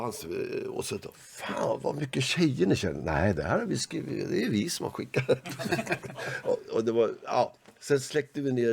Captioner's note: laugh